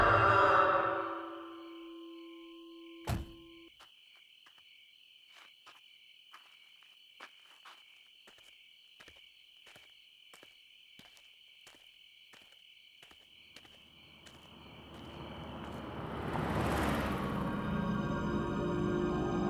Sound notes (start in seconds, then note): 1.1 insects chirping; 16.8 tense music